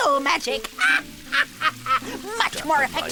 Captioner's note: laughing